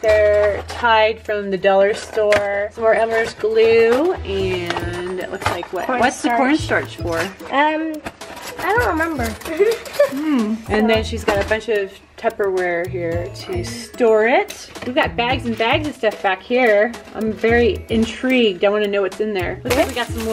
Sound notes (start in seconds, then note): 9.5 laughs